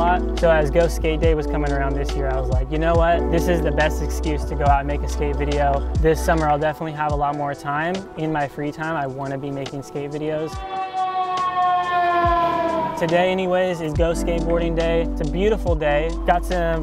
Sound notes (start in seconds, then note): 9.8 sirens wailing